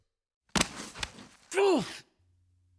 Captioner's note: slaps